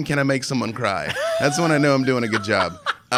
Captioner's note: laughing